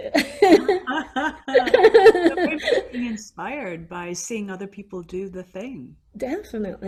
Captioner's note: laughing